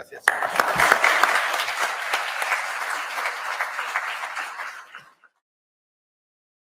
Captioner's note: applause